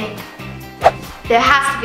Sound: air whooshes

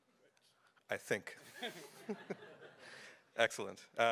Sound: laughter

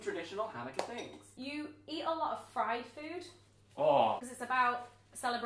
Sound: groans

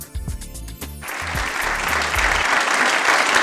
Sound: applause

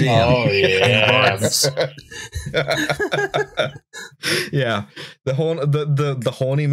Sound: laughter

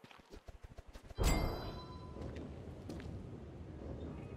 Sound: airy "kaching"

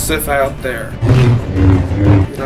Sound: lighsaber swinging

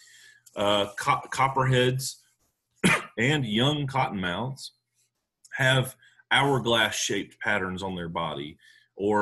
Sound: cough

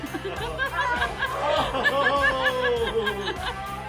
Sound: group laughing

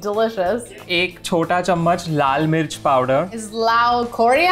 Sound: speaking in Hindi

